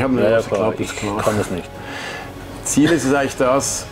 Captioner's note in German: lacht